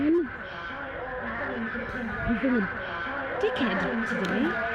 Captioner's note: chattering echo